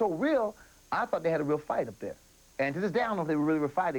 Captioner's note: foreign accent